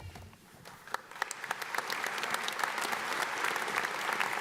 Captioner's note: audience applauds